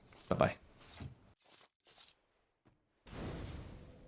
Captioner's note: footsteps